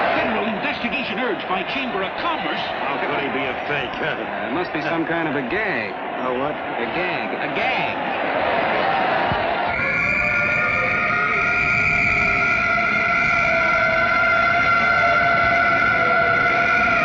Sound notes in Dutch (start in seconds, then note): 9.6 sirene loeien; 9.7 fluitje blazen